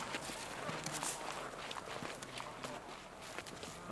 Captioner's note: multiple footstep